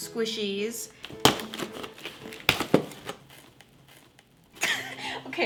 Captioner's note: opening box; wheeze